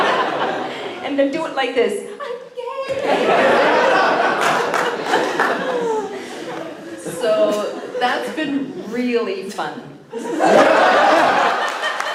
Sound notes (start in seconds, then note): 2.9 laughter